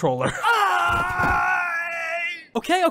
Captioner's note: suffering noises